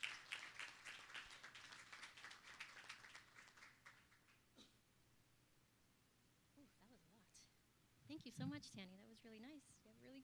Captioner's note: applause